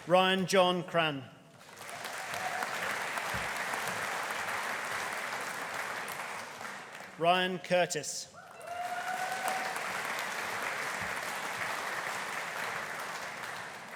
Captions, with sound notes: Ryan John Cran. (AUDIENCE APPLAUDING) Ryan Curtis. (AUDIENCE CHEERING) (AUDIENCE APPLAUDING)